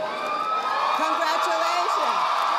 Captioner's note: audience applauding